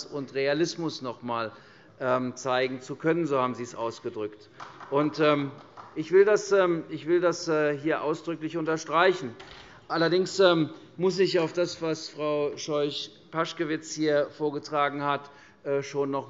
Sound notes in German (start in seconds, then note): 5.6 Beifall